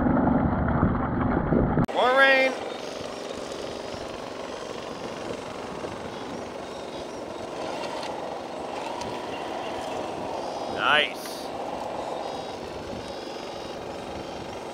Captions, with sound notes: More rain. (engines rumbling) (wind blowing) Nice.